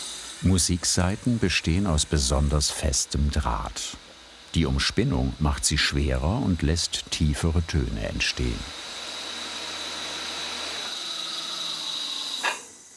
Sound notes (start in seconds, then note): 9.2 hissing whir